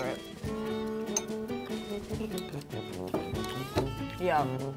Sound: chewing

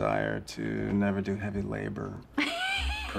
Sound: laughing

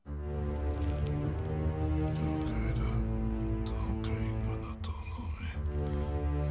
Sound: dramatic music; non-english speech

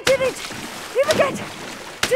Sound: splash

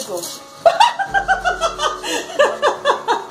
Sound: laughs

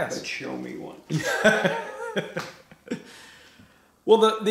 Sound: laughs

